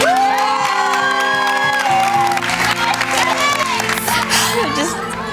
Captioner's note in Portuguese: Aplausos